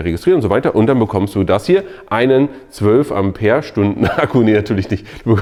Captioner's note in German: lacht